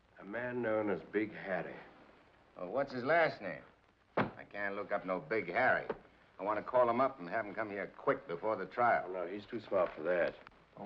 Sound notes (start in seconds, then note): 4.2 book thumps